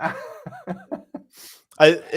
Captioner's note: laughter